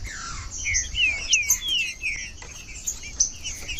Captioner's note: trinca ferro cantando